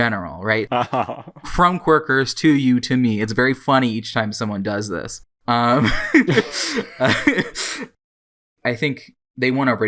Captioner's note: laughing; both laugh